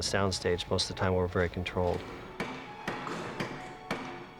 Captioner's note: hammers pounding